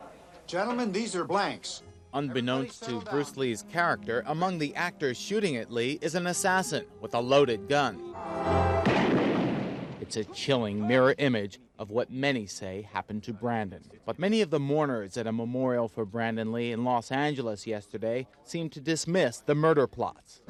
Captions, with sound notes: Gentlemen, these are blanks. Unbeknownst to Bruce Lee's character, among the actors shooting at Lee is an assassin with a loaded gun. (gunshot banging) It's a chilling mirror image of what many say happened to Brandon, but many of the mourners at a memorial for Brandon Lee in Los Angeles yesterday seem to dismiss the murder plot.